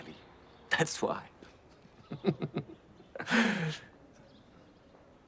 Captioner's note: chuckles